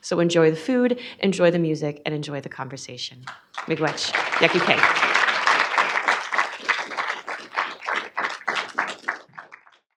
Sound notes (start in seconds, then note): 3.2 audience applauding; 4.1 speaks in foreign language